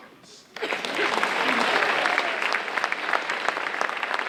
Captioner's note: audience applauding